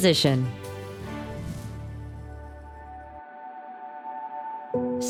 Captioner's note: air whooshing